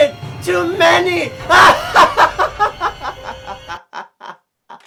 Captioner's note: laughing demonically